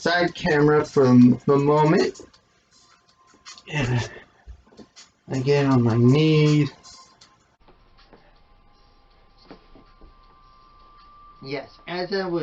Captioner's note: sighs